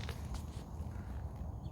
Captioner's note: sound of birds